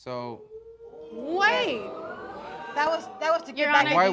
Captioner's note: audience gasps